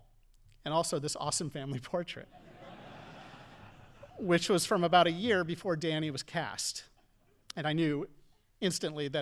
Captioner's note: audience laughing